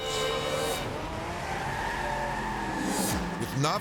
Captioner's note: tires screeching